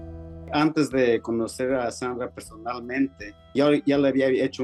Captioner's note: speaking Spanish